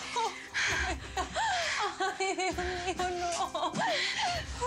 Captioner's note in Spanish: sollozos